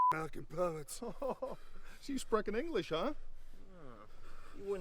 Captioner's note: German accent; chuckles